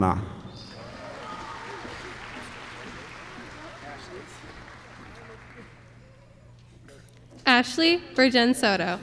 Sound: applause

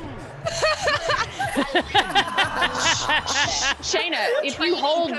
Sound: laugh

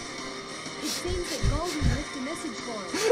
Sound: snickering

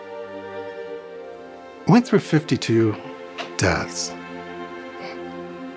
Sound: weeps

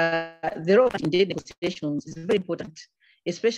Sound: audio distorts

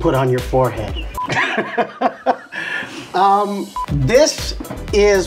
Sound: laughing

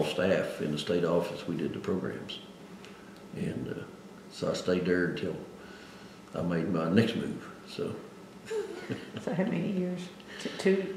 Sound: laughs

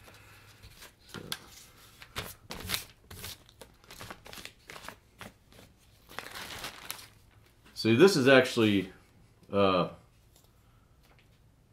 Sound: paper tearing

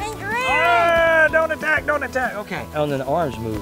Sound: yelling

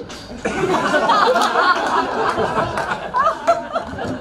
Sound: crowd laughs

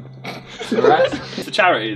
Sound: all laughing

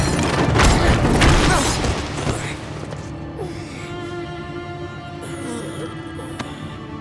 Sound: groaning

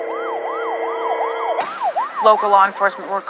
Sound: sirens wailing

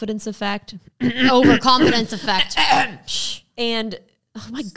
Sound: clearing throat

